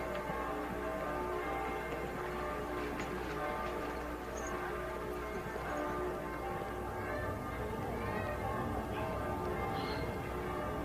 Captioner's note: tower bells ringing